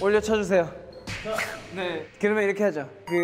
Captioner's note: smack